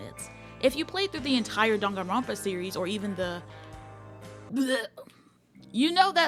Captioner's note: blegh